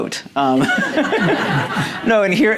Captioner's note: audience laughing